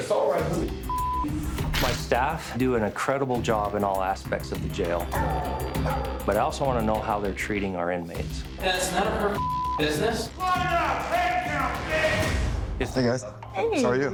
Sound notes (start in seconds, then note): 5.1 dog barking